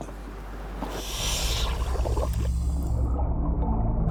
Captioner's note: sound of diver's oxygen tank; water bubbling